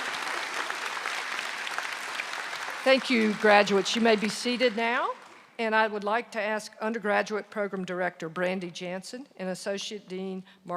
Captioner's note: applause